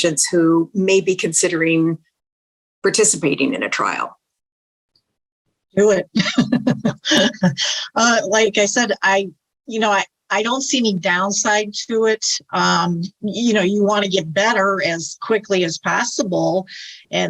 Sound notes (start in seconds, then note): 6.1 laughs